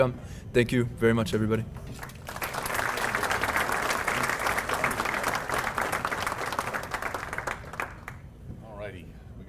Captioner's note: applause